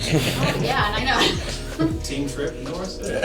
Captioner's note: laughter